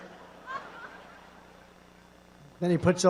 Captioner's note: laughter